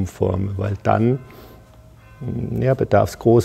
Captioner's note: bell ringing in the background